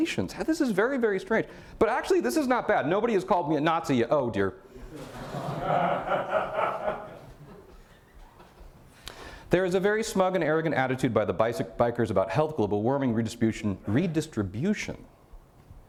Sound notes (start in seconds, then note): 4.8 audience laughter